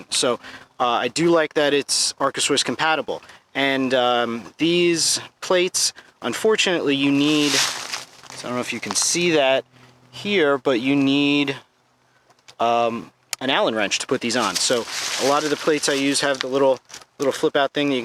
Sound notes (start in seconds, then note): 6.9 dry leaves crashing